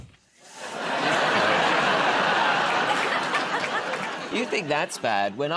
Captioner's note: laughter